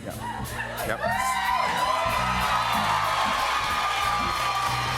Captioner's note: cheers and applause